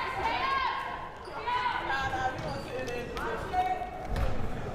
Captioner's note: crowd shouting